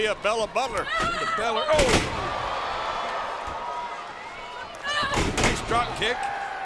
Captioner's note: spectators exclaiming